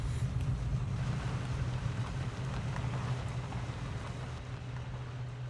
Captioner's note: Ellie breathes heavily; vehicle drives off